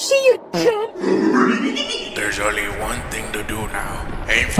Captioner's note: rehehehe